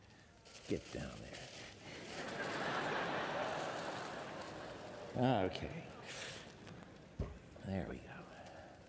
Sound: laughter

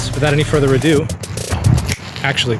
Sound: upbeat music; snaps fingers

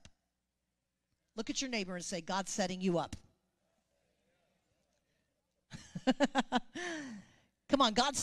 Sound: chuckles

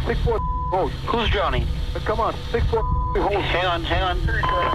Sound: beeb

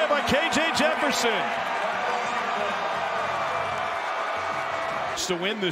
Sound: crowd

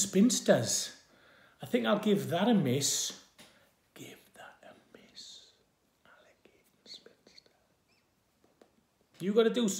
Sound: whispers

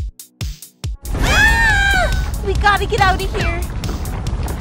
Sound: screams

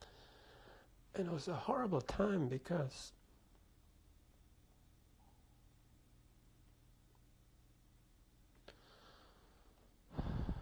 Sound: pauses for 6 seconds; sighs

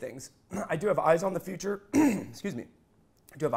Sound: clearing throat

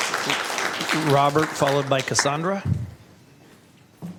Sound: applause

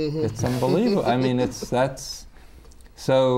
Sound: laughter

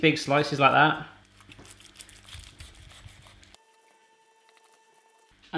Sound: knife cutting lamb

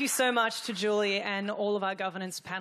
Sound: applause

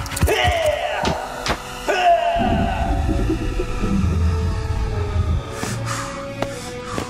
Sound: scorpions scurry; bones clap

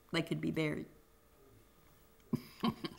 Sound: laughter

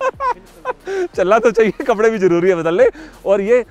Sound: laughter

